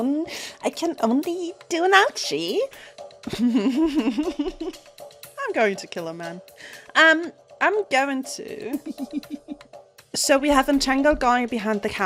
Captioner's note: laughs